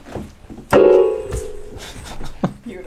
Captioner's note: slams keys